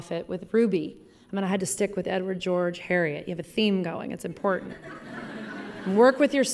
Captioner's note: laughter